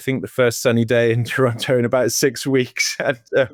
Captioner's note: laughing